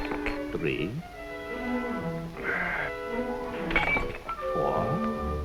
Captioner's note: Fedor groans